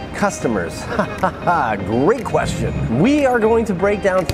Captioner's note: chuckles